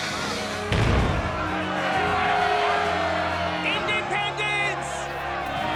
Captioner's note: cheering